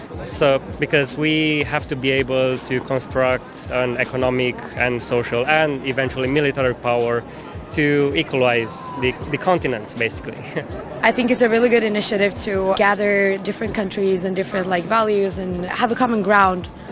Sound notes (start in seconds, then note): 10.2 chuckles